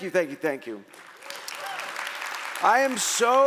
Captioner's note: audience applauding